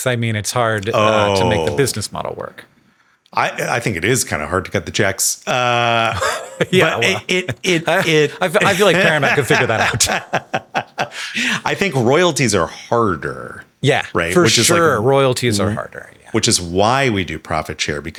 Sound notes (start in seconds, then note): 5.5 chuckles; 10.7 Sam laughing